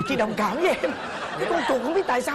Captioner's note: laughing